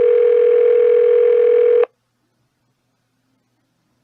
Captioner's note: phone still ringing